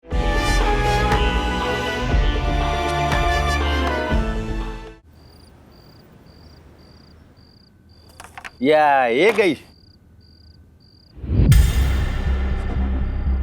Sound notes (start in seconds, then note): 5.0 birds chirping; 11.2 tense music